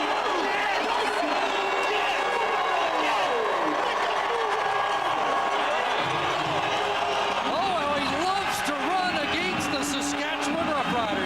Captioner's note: cheers/Applause